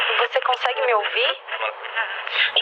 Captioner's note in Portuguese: ruído de interferência